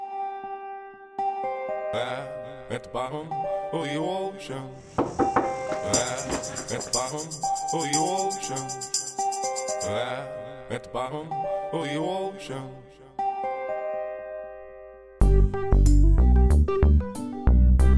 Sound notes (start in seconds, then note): 4.9 knocking